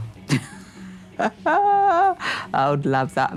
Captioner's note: laughs